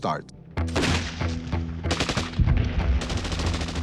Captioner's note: guns fire